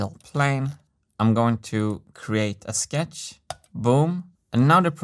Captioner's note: mouse click